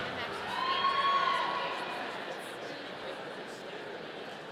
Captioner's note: audience cheering